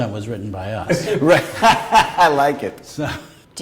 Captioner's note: laughter